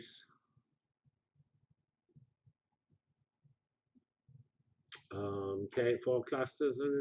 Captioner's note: pause